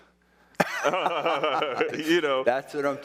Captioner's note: both laughing